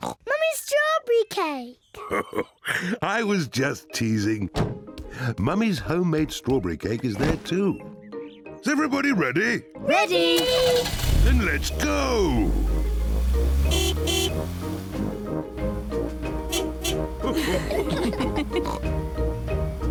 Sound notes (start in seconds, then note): 0.2 snorts; 1.9 chuckles; 12.8 toots horn; 17.2 all laugh